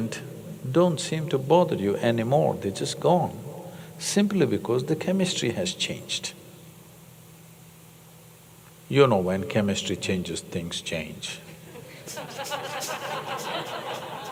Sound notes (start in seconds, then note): 11.6 laughter